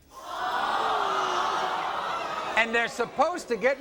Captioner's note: crowd gasping